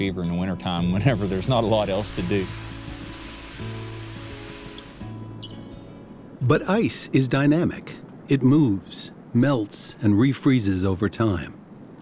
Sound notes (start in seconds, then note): 3.0 soft scraping